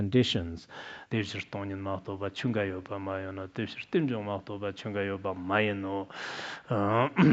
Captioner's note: citing scripture in Tibetan